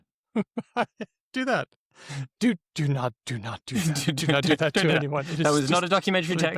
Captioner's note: sotto voce; laughs